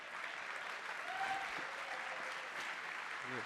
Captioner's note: applause